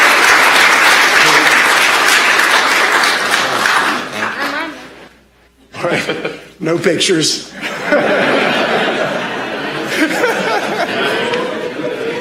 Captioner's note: applause